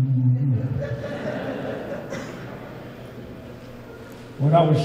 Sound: audience laughing

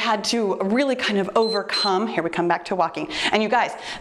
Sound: timer beeps

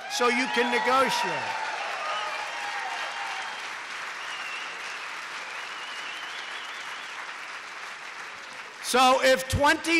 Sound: applause

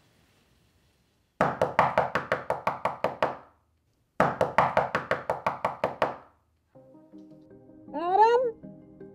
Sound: knock on the door

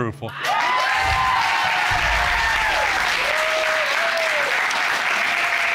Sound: applause

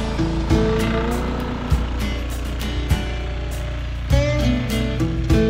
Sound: machinery roars; peaceful guitar music

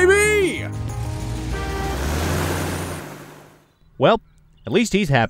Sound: car engine revving

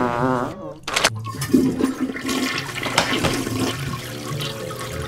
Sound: toilet flushing

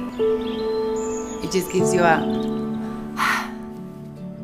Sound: exhale

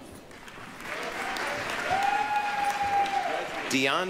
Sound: applause, cheering

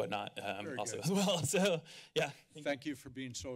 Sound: laughter

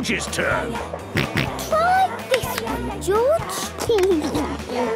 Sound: George snorts; giggles

